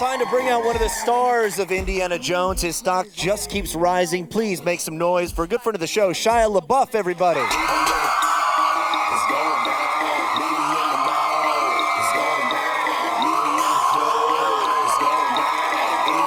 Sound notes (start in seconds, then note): 7.7 upbeat music; 10.6 audience stands and applauds